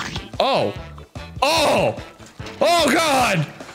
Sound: none

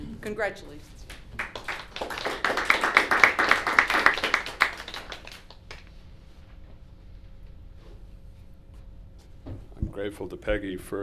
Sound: applause

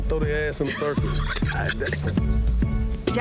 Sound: laughing

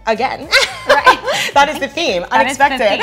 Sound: laughing

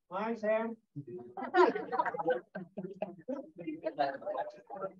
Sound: laughter

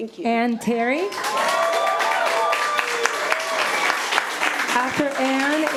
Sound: audience applauding

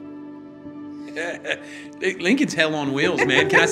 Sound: chuckles

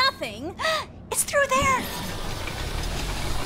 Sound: gasp

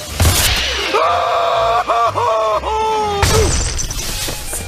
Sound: screaming, grunting

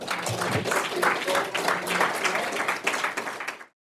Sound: audience applauding

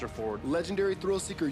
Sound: voiceover

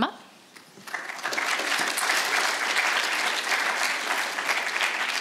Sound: audience applauds

